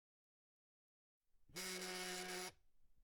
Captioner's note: cellphone ringing